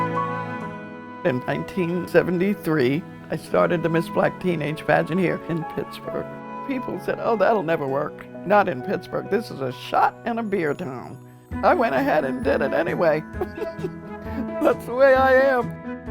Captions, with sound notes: In 1973 I started the Miss Black Teenage Pageant Here in Pittsburgh. People said oh that'll never work, not in Pittsburgh. This is a shot and a beer a town. I went ahead and did it anyway (chuckling). That's the way I am.